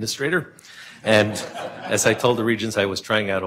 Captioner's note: laughing